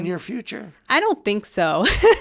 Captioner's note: laughs